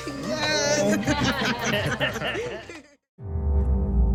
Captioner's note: laughter